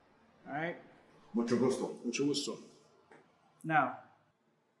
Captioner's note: Jesse Spanish